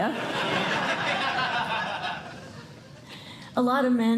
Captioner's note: laughter